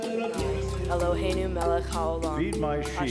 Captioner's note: woman speaking in foreign language